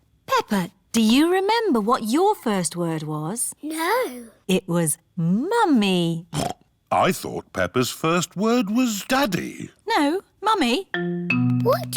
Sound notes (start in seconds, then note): 6.4 snorts